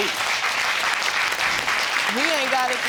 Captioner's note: audience applauding